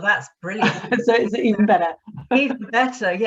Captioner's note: chuckles